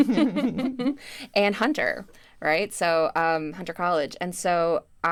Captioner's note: chuckles